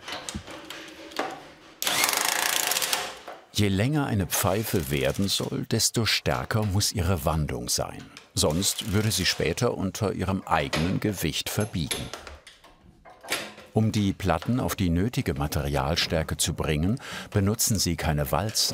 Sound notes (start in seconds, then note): 1.7 rattling